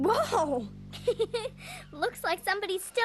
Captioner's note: laughing